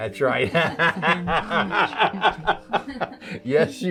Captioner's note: laughing